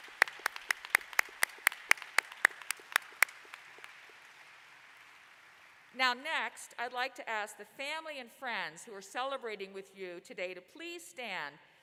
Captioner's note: applause